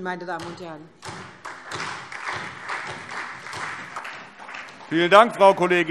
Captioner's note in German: Beifall SPD